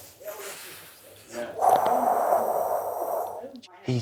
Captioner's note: exhales